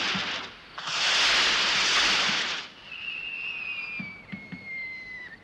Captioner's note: fireworks crackling